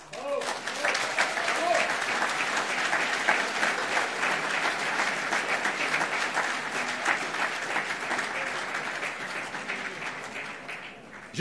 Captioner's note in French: Applaudissements